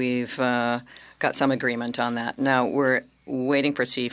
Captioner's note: speaking French